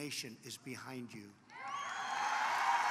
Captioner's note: applause